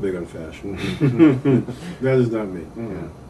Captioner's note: laughing